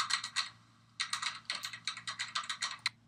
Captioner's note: computer typing noise